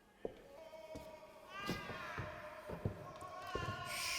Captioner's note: footsteps